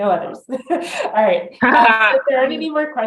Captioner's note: both laugh